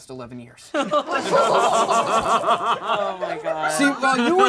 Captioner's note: all laugh